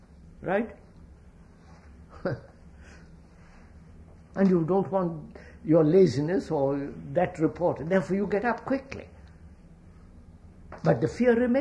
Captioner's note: laughs